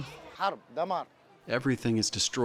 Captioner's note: through translator